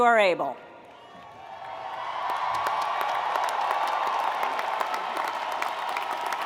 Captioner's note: audience cheering and applauding